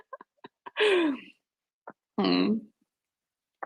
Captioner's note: laughs